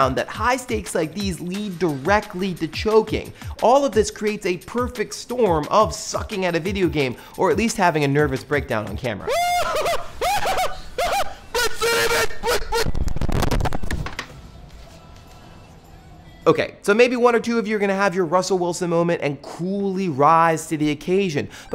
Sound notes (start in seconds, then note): 9.2 screams